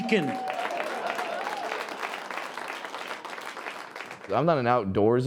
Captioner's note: audience applauding